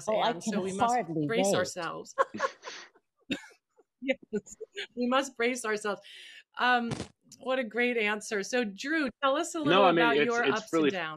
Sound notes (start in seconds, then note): 2.2 laughing